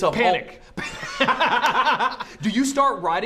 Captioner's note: laughter